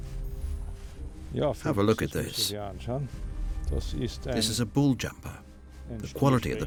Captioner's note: in German